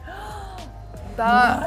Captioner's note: gasps